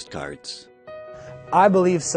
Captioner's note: voiceover